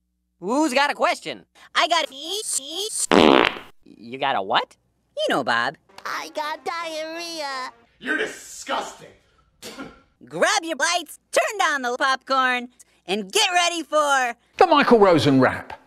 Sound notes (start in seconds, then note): 3.1 fart; 9.6 spits